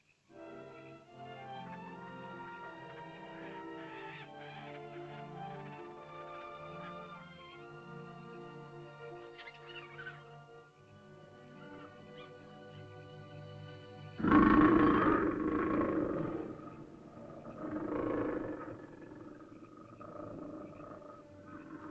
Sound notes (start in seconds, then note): 0.2 animal chittering; 0.2 sentimental music; 3.4 small animal squawks; 6.1 sentimental music; 9.4 small animal chitters; 14.1 large animal growls